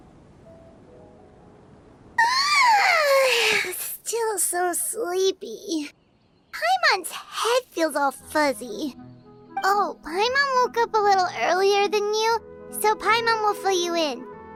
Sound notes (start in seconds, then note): 2.2 yawn